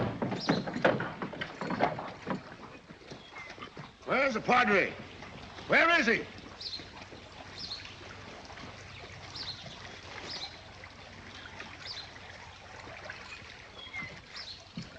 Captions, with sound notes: [ RATTLING SOUND ] [ YELLING ] Where is the Padre? Where is he?